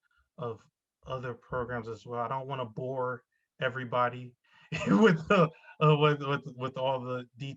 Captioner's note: laughs